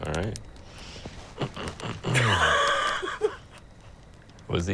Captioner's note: laughs; clears throat